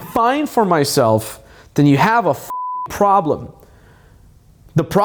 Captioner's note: beep